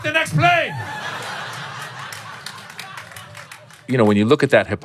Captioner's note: laughter